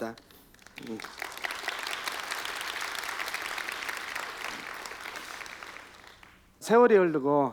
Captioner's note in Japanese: 拍手